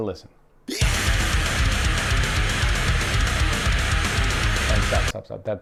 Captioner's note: man screaming, heavy metal music playing